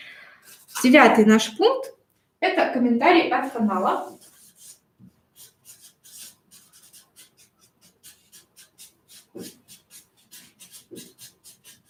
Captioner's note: скрежет маркера